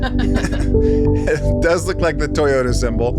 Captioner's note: everyone chuckles